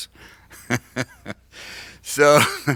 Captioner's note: laughs